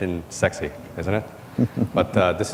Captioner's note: laughs